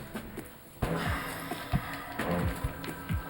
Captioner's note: heavy exhale